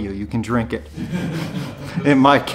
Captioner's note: crowd laughing